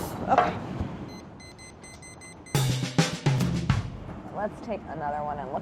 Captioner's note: timer beeping